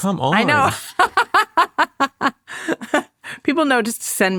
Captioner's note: laughs